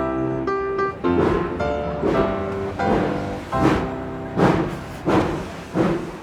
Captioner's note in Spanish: Tren de vapor encendiendo